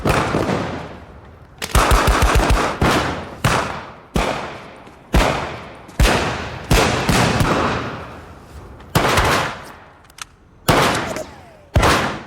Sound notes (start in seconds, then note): 8.9 gun firing